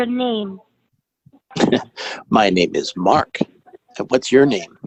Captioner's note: laugh